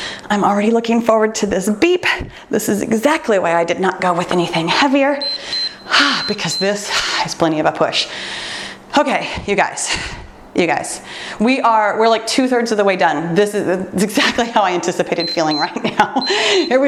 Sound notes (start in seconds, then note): 5.2 timer beeps; 8.1 exhales deeply; 15.1 timer beeps